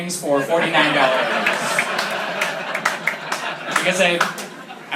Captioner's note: laughter